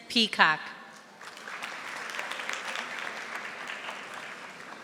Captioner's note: audience applauding